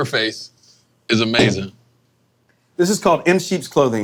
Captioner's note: bottle thudding